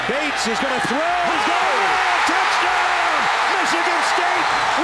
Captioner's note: crowd cheering; crowd cheering wildly